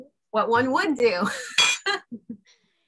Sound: laughs

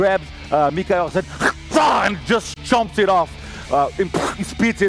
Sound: bite

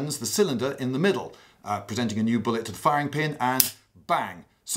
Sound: click

